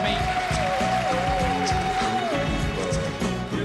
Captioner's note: applause